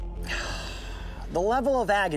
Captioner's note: Coyote sighs